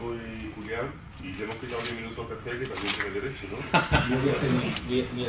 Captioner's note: laughter